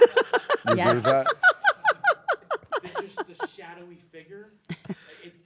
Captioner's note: laugh